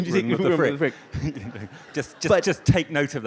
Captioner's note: audience laughs